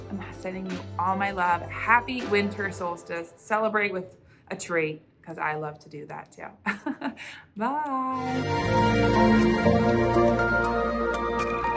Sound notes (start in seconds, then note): 6.6 chuckles; 8.1 lighthearted music